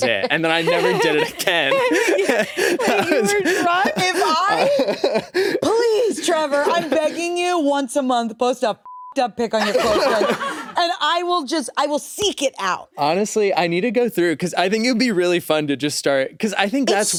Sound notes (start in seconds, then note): 8.8 beep